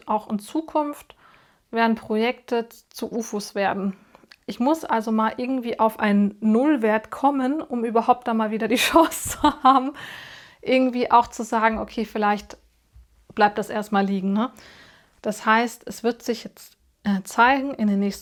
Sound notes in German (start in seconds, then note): 8.8 gelächter